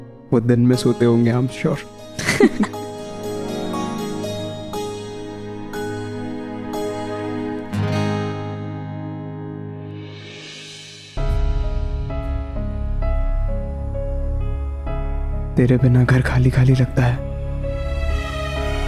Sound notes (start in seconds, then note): 2.2 chuckling; 11.1 suspenseful music; 17.4 mellow music